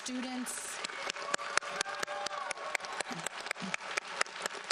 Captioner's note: audience applauds